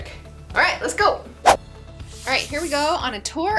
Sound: whoosh

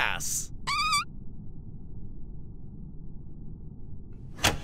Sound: farting noise

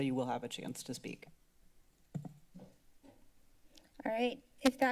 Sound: silence

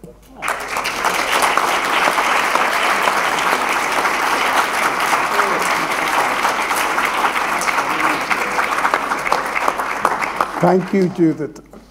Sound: applause

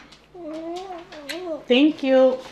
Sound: kiss smack

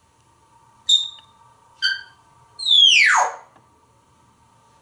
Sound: whistling

